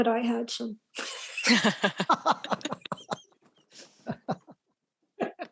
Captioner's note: laughter